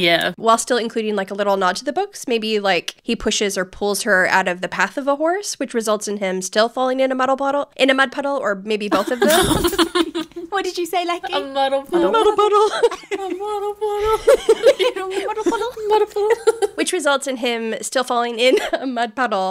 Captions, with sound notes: while still including like a little nod to the books. Maybe like he pushes or pulls her out of the path of a horse, which results in him still falling in a muddle puddle or maybe both of them. (laughing) - What did you say, Lechi? - A muddle puddle. - A muddle puddle. - A muddle puddle. (all laughing) A muddle puddle. Muddle puddle. - Which results in him still falling in a mud puddle